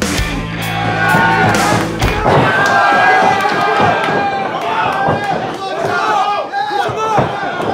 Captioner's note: audience cheering